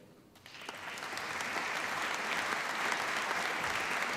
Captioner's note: applause